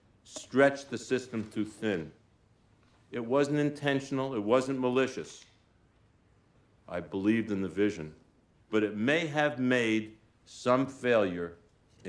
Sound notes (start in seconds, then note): 1.2 footsteps approaching